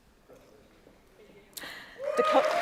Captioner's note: applause